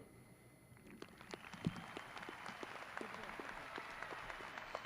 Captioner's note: graduates cheering